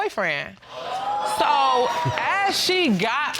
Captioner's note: exclaiming